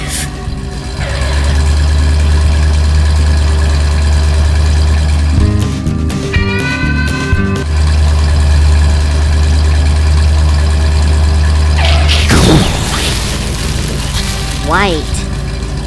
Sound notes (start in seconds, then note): 9.6 engine noise; 9.6 explosion; 9.6 skid